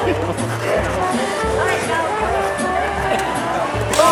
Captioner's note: chattering